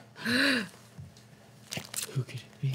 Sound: gasps

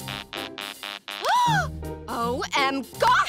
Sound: gasping

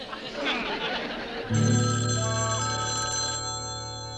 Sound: phone rings

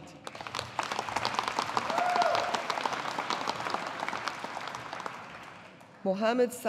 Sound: audience applauding

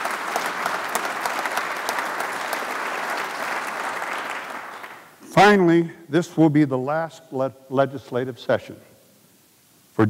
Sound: applause

